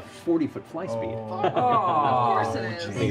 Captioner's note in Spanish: gemido